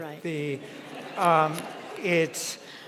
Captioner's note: audience laughing